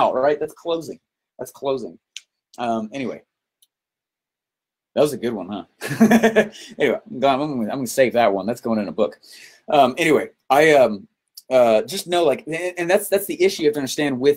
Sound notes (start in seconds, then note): 5.8 laughs